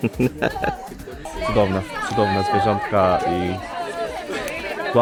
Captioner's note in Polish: laughs